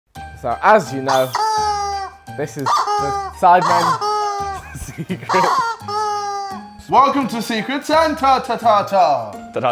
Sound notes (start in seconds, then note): 2.6 toy squeaking; 2.6 laughs